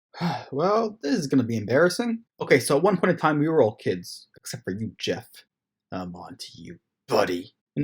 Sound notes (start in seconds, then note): 0.1 sigh